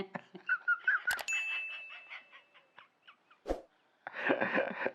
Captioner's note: laughter